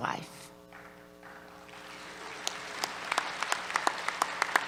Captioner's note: applause